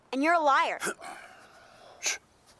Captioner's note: Heep clears throat